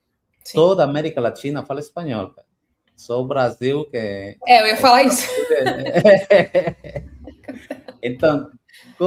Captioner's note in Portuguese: risadas